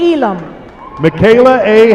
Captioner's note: applause